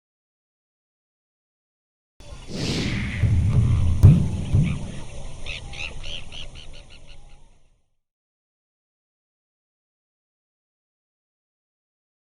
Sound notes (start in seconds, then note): 5.5 bird tweeting